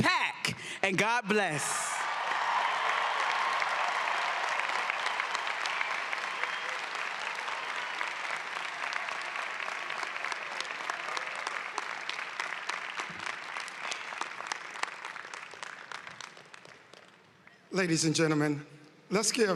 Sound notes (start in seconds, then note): 5.0 cheering and applause